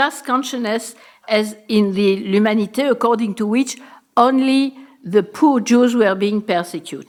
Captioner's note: french